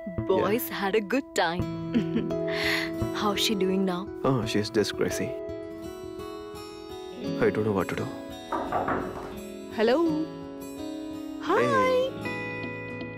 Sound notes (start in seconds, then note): 8.4 knocks on door